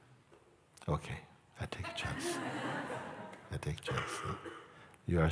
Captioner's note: Lachen